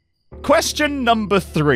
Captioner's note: whispering